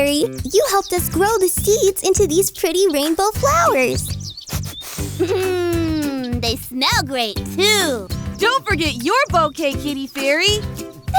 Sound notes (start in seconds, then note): 4.1 sniffs